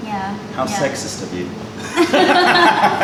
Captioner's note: laughter